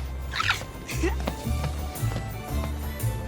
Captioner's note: peyton giggling